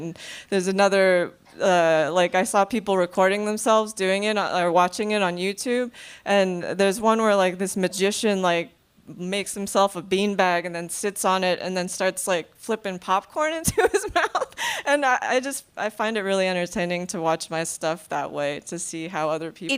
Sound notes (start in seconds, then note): 14.4 laughing